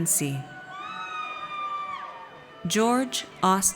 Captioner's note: audience cheers